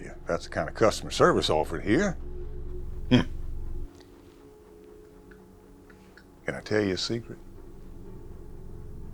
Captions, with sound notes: if that's the kind of customer service offered here. (snorts) May I tell you a secret?